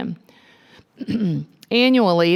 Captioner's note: clearing throat